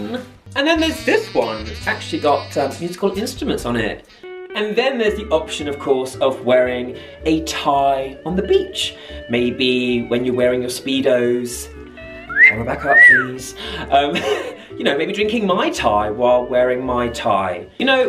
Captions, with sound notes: And then there's this one that's actually got, it's got musical instruments on it. And then there's the option of course of wearing a tie on the beach. Maybe when you're wearing your speedo's, Camera back up please. (cat call whistle) (laughing) You know, maybe drinking Mai Tai while wearing my tie.